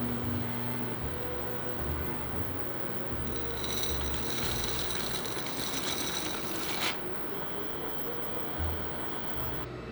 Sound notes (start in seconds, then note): 3.7 noodles dropping